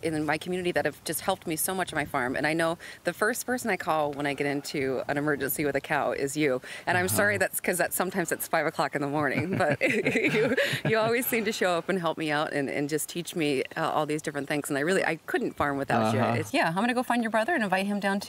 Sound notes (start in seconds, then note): 9.1 both laughing